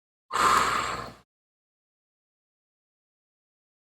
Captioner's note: inhaling and exhaling